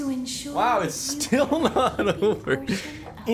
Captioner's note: laughs